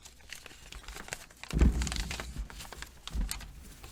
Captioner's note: rustling; thumping